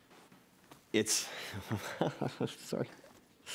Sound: laughter

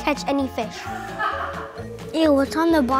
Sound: laughs

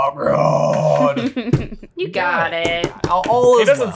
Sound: giggles

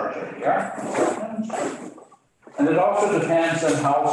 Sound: equipment shuffles

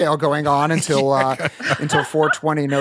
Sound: laughing

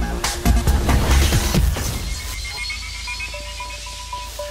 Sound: electronic trilling

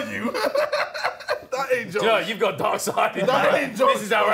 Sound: group chattering

